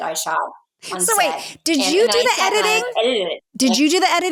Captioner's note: laughing